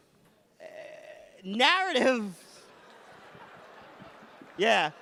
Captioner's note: audience laughs